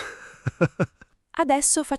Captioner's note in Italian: Haha